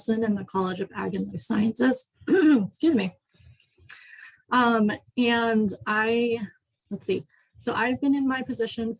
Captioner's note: coughs